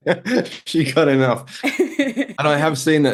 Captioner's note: laughing